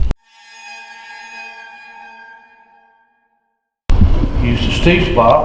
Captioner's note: spooky sound effect